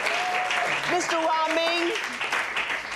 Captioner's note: audience cheering